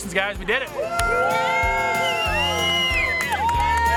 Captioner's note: everyone cheers